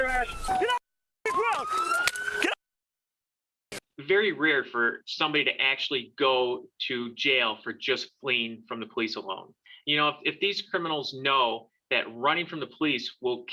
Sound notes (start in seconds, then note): 1.2 sirens